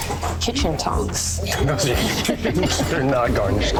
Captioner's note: laughter